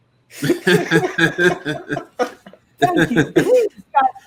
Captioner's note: all laugh